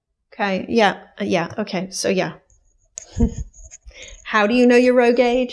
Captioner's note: chuckles